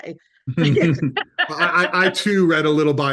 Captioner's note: laughing